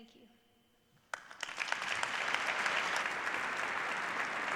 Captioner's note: applause